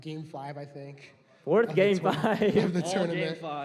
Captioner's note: laughs